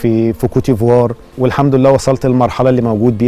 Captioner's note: in Arabic